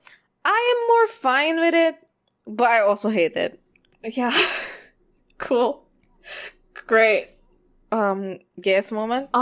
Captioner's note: laughs